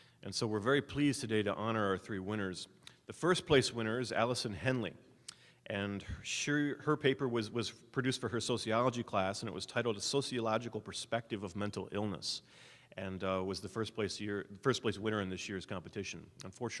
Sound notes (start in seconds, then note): none